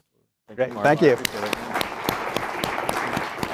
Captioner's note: applause